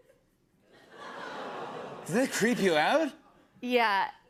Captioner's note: laughter, audience groans